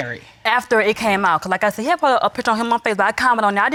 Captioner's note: none